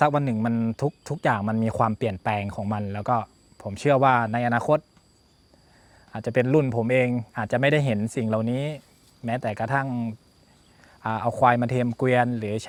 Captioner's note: speaking Thai